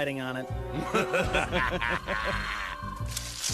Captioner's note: laughter